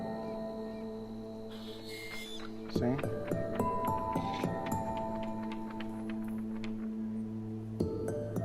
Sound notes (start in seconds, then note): 1.8 camera whirring; 5.2 paper flapping